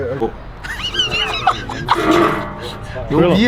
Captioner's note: laughs